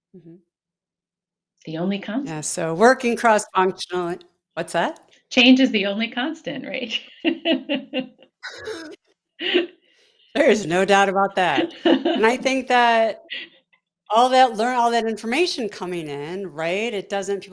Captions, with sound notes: The only- - Yeah. So working cross-functional what's that? - Change is the only constant, right? (both laughing) - There is no doubt about that. And I think, learn all that information coming in, right?